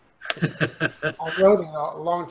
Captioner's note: laughing